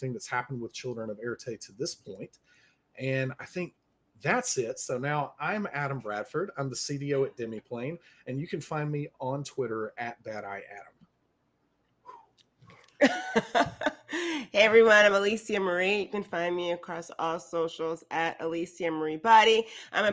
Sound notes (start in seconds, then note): 12.1 exhales; 13.0 laughs